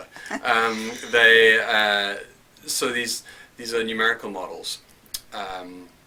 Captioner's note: laugh